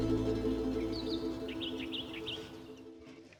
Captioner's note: birds chirping